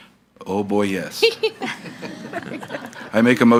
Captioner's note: all laughing